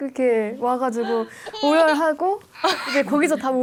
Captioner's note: sobbing